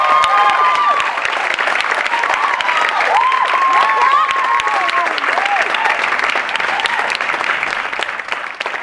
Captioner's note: applause